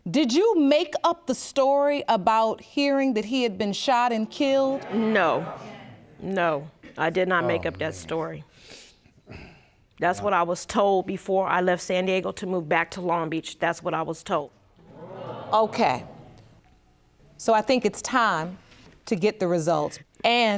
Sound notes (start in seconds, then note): 14.8 audience gasps